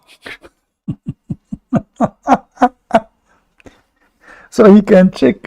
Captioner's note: Ketawa